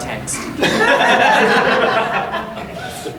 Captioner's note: audience laughing